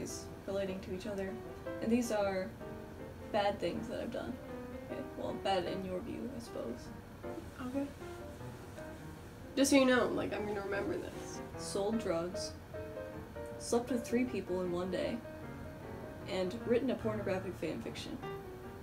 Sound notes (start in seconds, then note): 7.5 skeptically